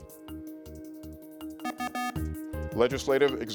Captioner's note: tense music; buzzer rings